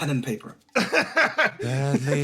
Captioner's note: laugh